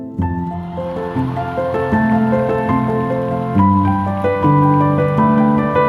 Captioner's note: gentle music continues; audience cheering